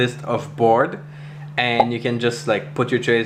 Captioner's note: bubble popping